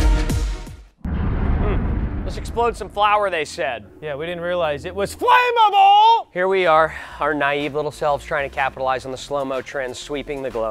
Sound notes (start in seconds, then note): 1.0 boom